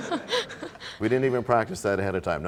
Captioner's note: laughter